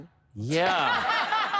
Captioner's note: sarcastically